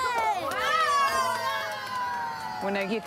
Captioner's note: cheering